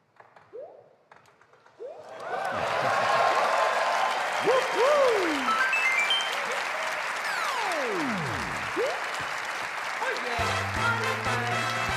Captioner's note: cheers and applause